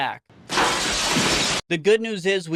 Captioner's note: glass window shattering